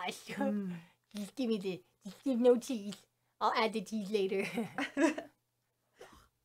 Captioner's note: laughs